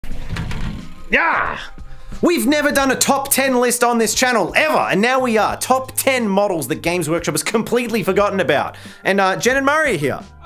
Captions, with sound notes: (door opens) (door closes) - Yaargh! We've never done a top 10 list on this channel ever. And now we are top 10 models that Games Workshop has completely forgotten about. And Jen and Murray are here.